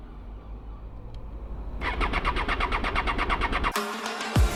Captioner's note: engine Turning